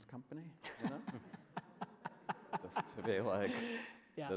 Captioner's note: laughs